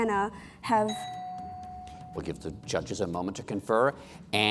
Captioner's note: bell dings